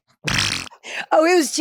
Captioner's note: mouth farting